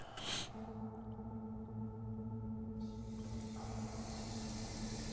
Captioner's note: static